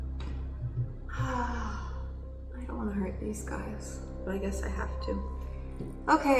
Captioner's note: sighs